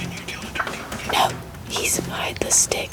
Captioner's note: whispering